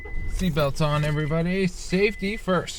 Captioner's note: ignition switch clicks